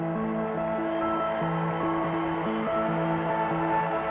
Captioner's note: cheers and applause